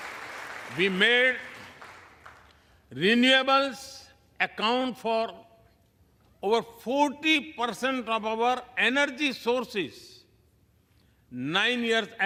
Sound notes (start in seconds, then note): 1.5 applause